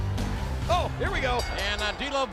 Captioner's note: chuckles; bell rings